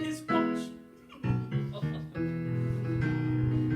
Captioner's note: laughs